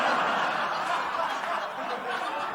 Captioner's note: laughter